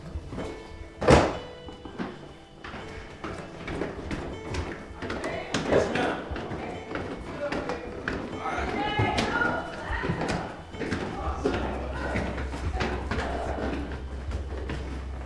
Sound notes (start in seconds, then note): 2.1 foot steps